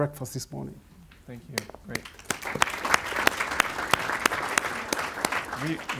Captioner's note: audience applauds